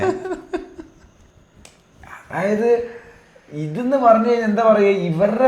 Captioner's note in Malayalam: പൊട്ടിച്ചിരി